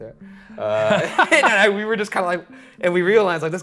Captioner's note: laughing